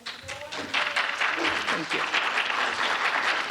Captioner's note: audience applauding